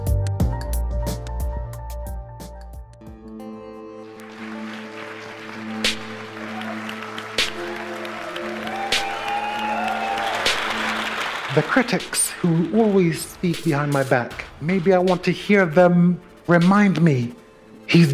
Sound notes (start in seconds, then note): 3.9 audience clapping; 7.9 audience cheering